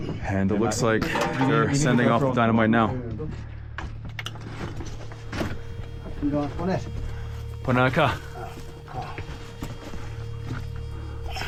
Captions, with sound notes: And it looks like sending off the dynamite now. (rocks clattering) (people chattering) (suspenseful music) (speaker speaking foreign language)